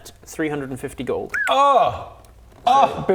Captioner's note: cry of pain